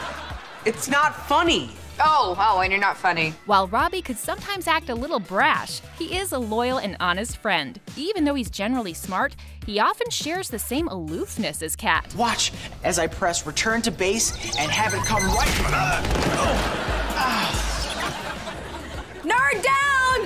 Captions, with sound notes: It's not funny! Oh, oh, and you're not funny. While Robbie can sometimes act a little brash, he is a loyal and honest friend. Even though he's generally smart, he often shares the same aloofness as Cat. Watch as I press return to base and have it come right-- [grunting] [groaning] Nerd down!